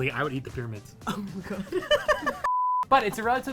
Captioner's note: laughing